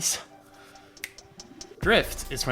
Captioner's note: fingersnap